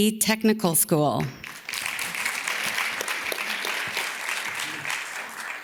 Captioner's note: audience claps